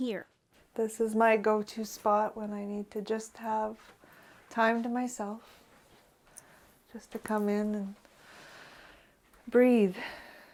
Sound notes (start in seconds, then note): none